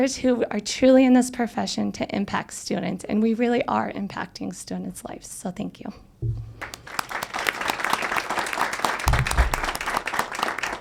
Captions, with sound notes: who are truly in this profession to impact students and we really are impacting students' lives. So, thank you. (audience applauds)